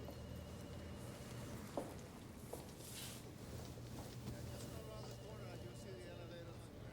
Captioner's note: telephone rings distantly; people chattering